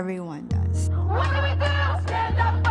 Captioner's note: chanting